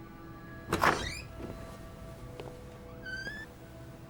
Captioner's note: light dramatic music; door squeaks